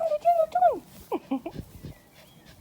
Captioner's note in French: rires